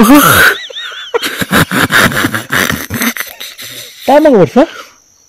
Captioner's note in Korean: 웃음